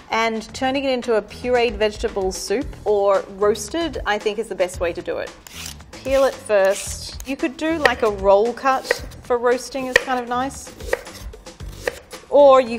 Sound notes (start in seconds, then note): 9.9 knife tapping against wooden board